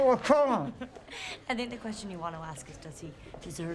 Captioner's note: laughs